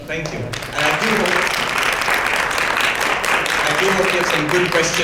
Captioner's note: audience claps